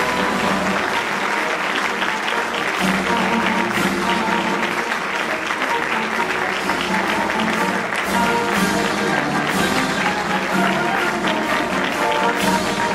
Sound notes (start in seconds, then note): 2.0 applause